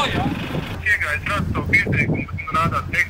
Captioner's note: phone conversation